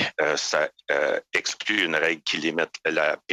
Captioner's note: speaking French